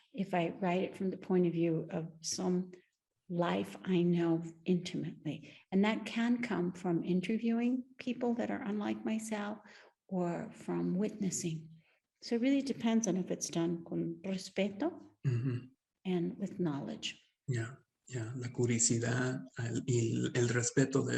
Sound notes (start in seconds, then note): 13.8 speaks Spanish; 19.1 speaking Spanish